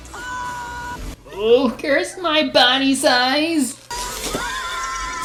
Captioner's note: imitating Russell